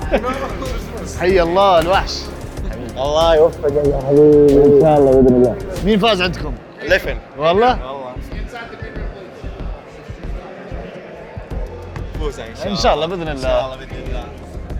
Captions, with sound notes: - [In Arabic] Here comes the monster! - May God bless you habibi. - InshaAllah if God allows it. Who won in your bracket? Leffen. - Really? - Really! - You're winning inshaAllah. - InshaAllah if God allows it - InshaAllah God allows it.